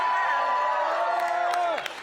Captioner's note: cheering